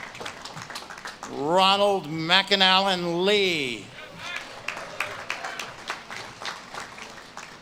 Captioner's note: audience claps and cheers